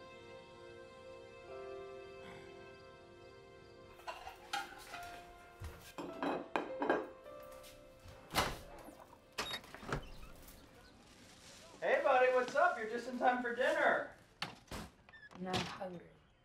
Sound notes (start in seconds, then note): none